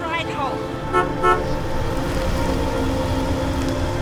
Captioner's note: horn honks